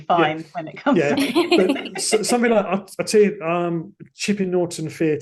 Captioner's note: laughter